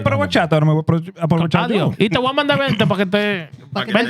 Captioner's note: speaking Spanish